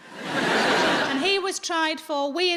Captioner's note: audience laughing